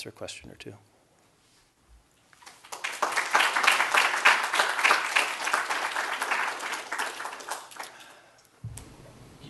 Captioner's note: applause